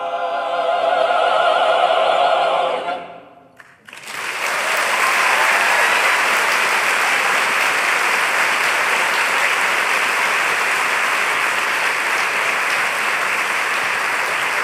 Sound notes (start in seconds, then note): 3.6 applause